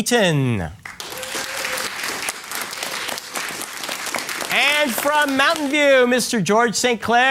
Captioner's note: applause